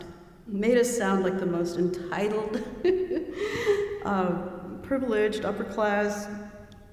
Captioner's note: laughing